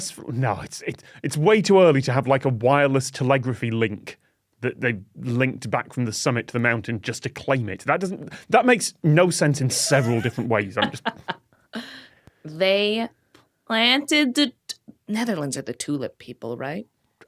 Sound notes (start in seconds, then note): 9.7 laughs